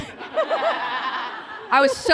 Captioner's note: laughter